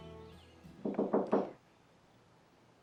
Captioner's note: knock on door